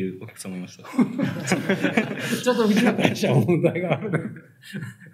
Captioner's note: laughs